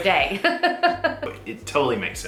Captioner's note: laughs